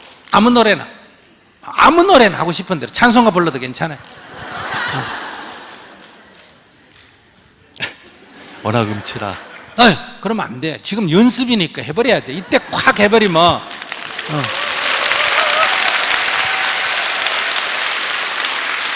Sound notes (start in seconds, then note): 4.1 audience laughter; 12.9 audience applause